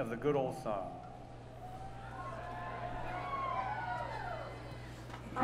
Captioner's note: cheering